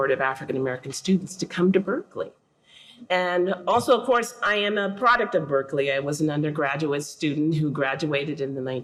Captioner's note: none